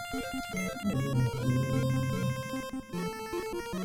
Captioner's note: humming along